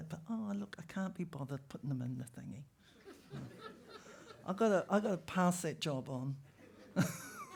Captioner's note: laughter